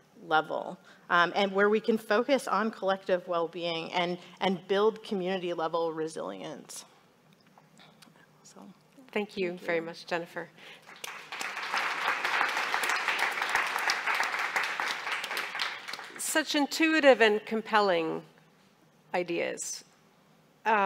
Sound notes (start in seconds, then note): 10.8 audience applauding